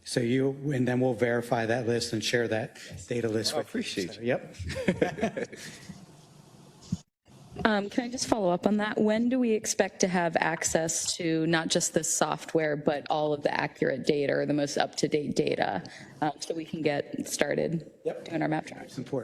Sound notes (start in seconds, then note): 4.5 laugh